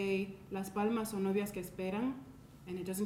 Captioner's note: speaking in a foreign language